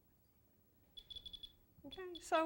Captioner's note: beeping